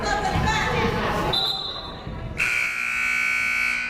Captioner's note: whistle blows; buzzer blares